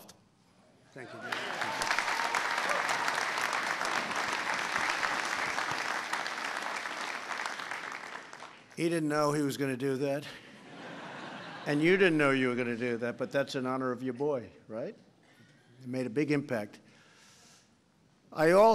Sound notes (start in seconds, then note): 1.1 applause; 10.3 laughter